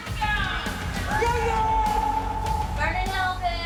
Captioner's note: cheering